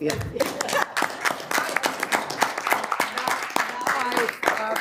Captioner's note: audience applauding